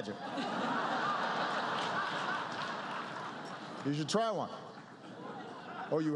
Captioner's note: laughter